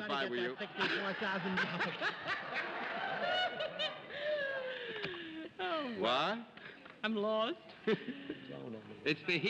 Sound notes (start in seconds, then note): 0.8 laughs